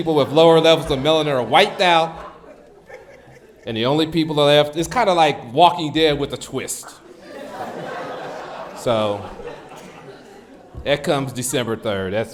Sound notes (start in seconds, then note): 7.3 audience laughs